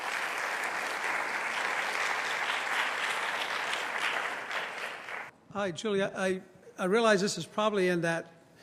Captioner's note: applause